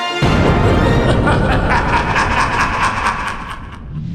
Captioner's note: Palpatine laugh